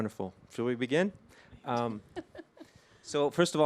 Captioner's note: chuckles